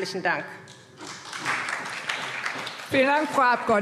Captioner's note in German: Beifall SPD